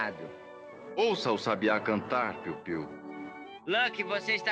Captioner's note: mocking